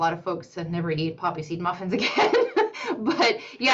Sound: laughs

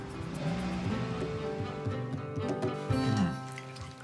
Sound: car accelerates

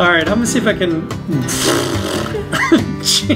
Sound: raspberry noise of exasperation; laughing

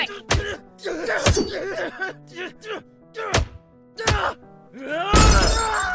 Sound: In Andy’s voice

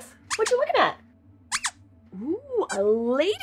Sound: squeaks squeaks

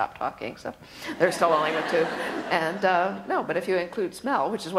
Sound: laughter

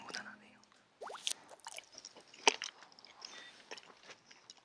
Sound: nom nom x2

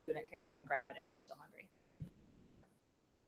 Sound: audio cuts

